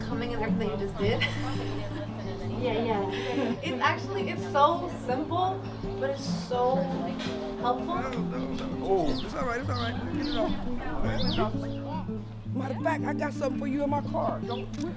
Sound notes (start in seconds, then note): 0.9 laughs; 10.1 indistinct chatter